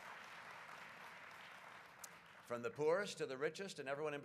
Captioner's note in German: Applaus